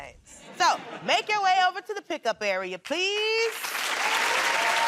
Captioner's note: laughter